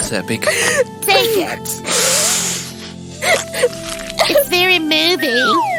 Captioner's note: sniffing with emotion; sobs; sniffs noisily; blows her nose noisily